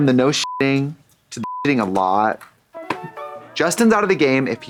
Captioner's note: beep; playful music